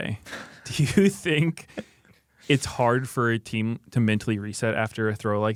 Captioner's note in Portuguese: risos